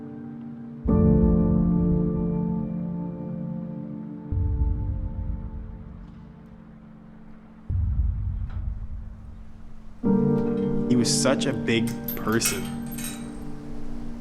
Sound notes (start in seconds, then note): 4.3 low rumbling